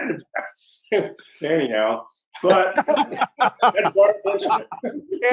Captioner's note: laughs